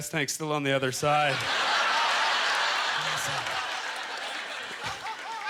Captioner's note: audience laughter; laughing